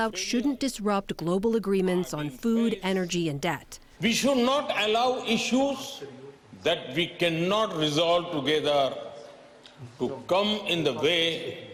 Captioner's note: speaking foreign language